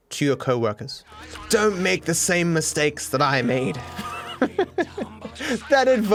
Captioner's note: laughs